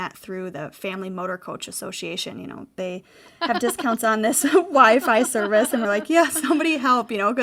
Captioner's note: laughing